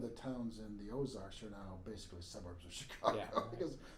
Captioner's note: laughing